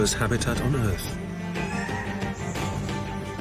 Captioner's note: bird squawks